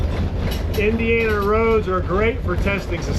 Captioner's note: radio beeps; engine humming